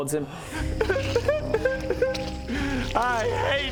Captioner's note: cry.wav